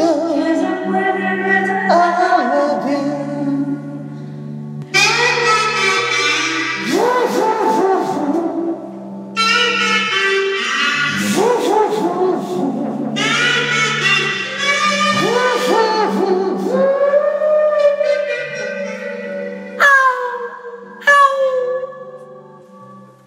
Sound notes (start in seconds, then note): 6.8 mouth Trumpet